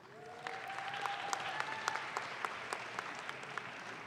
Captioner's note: audience claps